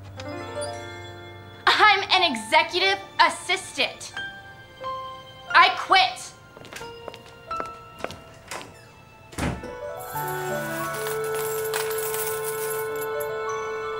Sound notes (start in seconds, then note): 0.2 bright music; 3.3 bright music; 9.3 door thuds; 10.0 coins clinking